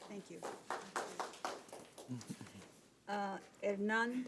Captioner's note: audience member claps